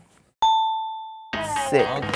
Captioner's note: dinging